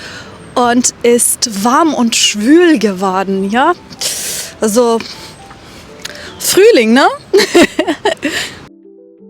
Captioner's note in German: gelächter